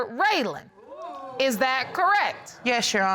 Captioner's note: audience exclaiming